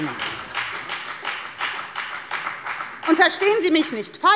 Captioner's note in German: Beifall bei der FDP